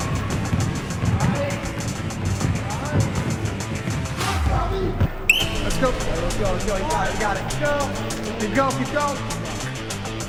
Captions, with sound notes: (upbeat electronic music) (students shout and thump) (whistle blows) - Let's go. - Let's go. Let's go. - Got it. Go. - Keep going, keep going.